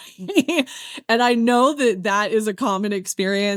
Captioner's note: laughs